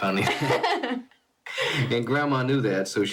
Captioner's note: both laughing